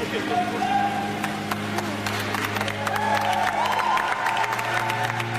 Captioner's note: audience applauding